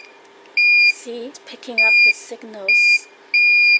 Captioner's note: beeps